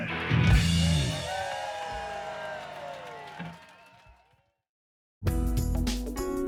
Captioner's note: cheers and applause